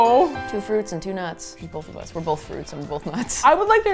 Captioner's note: laughs